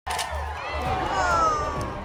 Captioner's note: crowd cheering